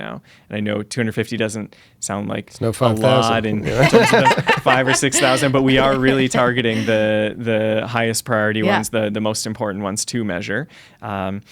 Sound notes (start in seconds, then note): 3.0 laughter